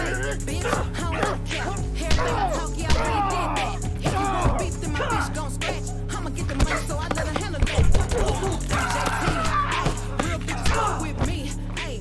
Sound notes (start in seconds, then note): 0.0 both grunting; 6.1 grunting; 8.6 man screaming